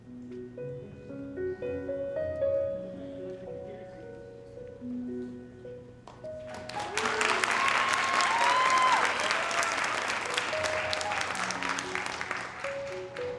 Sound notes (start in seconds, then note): 6.4 audience applauding; 6.5 audience cheering; 10.0 soft music continues